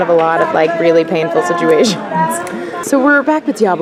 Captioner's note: laughs